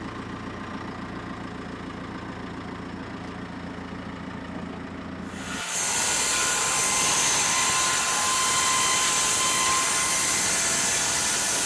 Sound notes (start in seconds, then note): 5.2 saw blade whirring